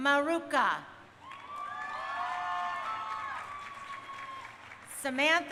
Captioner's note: crowd cheering